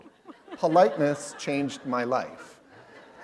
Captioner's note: laughter